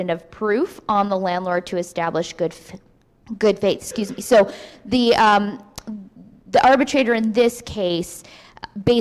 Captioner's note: coughs